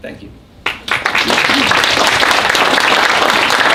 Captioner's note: applause